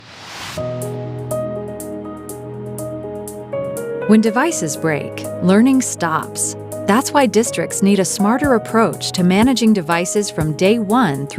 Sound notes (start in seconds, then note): 0.0 logo whooshing; 0.2 bright subtle music